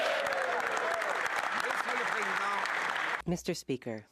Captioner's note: speaking French